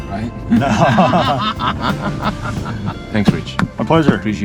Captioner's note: laughter